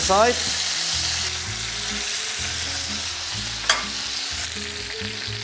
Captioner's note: sizzling sound